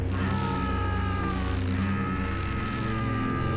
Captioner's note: screams